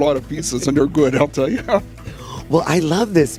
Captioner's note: laughs